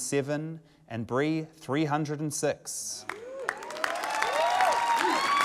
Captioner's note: cheering, applause